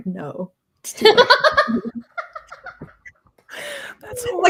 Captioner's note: laughs loudly